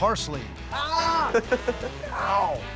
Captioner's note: laughter